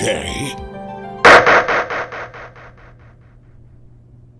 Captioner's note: gavel slams, echoes!